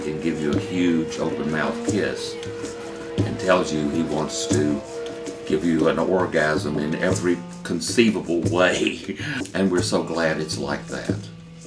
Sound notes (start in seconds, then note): 8.8 laughs